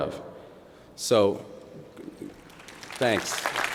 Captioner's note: applause